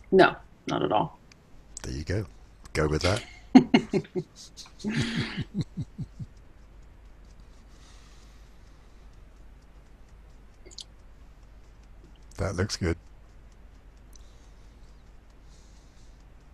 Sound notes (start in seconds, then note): 2.8 laughs; 4.9 chuckles